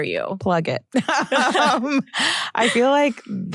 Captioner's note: laughter